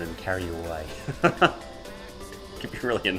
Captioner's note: chuckles